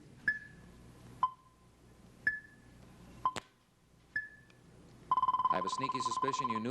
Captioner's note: clock ticking